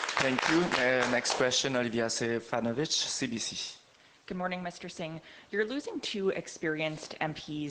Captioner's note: applause